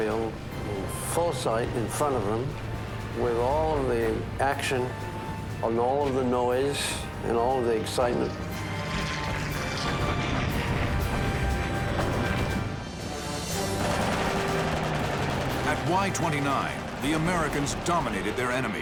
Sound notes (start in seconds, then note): 13.6 gunfire